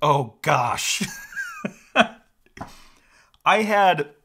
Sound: laughs

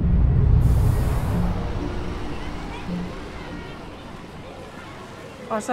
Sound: children chattering

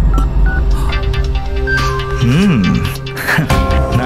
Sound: phone rings

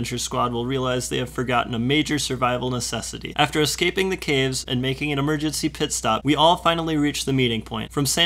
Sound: none

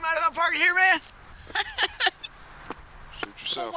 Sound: laughs

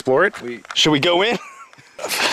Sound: laughs

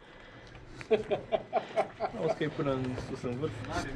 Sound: a lot more giggles

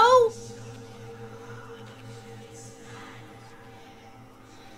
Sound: eerie whispering

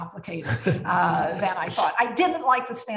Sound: laughs

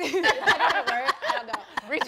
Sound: laughing

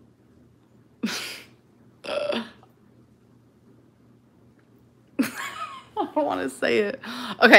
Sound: laughs

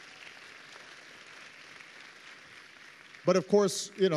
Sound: applause

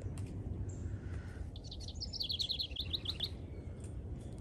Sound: birds chirping

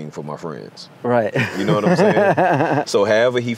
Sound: laughs

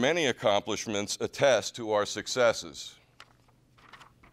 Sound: page turning

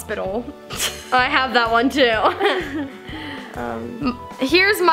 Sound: laughs; laughs

